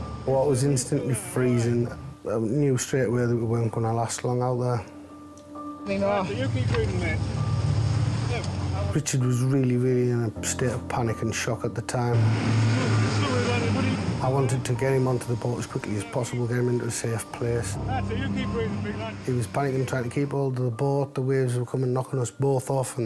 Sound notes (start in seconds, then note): 5.4 gentle music; 8.3 gentle music; 12.2 engine revving